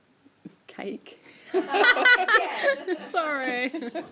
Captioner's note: laughter